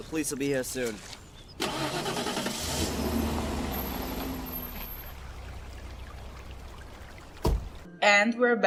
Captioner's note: car running and car door closing